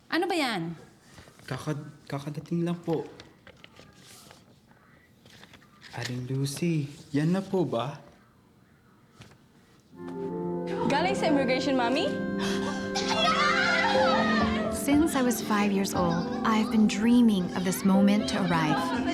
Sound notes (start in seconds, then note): 1.7 speaks in foreign language; 10.1 mellow music; 13.0 cheering